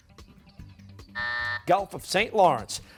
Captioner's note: buzzer